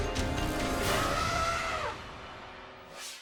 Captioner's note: elephant trumpeting; air whooshes